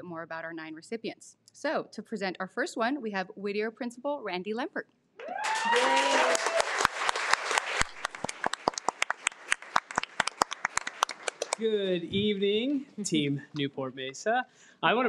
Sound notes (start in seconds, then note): 5.2 audience cheering